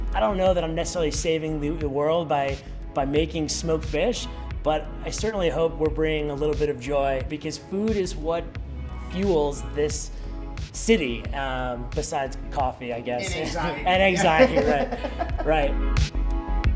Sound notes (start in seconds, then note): 13.2 laughing